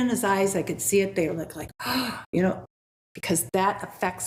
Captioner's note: gasps